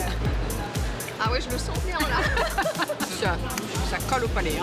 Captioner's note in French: rires